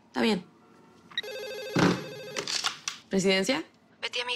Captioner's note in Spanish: Suena el teléfono